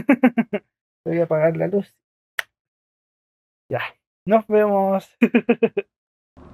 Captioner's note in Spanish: risas; risas